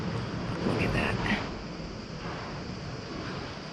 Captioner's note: whispering